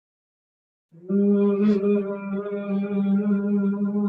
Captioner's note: humming